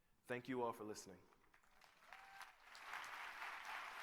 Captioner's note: applause